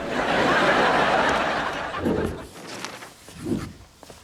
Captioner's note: audience laughs